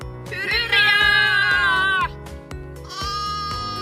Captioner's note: sheep bleats